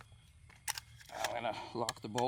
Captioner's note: clicking